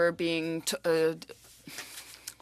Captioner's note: speaking French